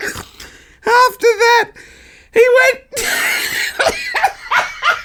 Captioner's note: laughs